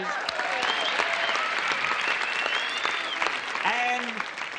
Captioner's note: applause